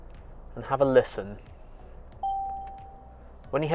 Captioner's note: car Chime